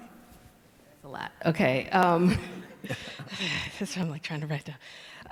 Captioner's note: laughs